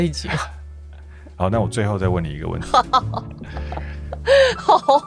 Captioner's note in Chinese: 哈哈哈